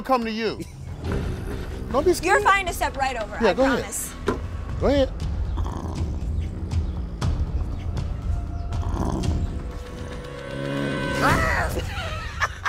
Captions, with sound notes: - You're fine to step right over, I promise. - Go ahead. (dramatic music) (growling) (screaming)